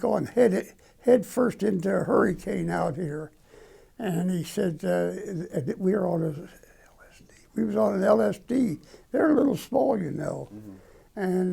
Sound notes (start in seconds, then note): 6.0 whisper